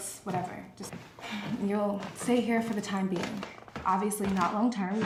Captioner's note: sighs